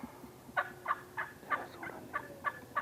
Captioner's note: turkey calls